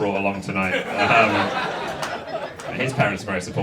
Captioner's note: audience laughs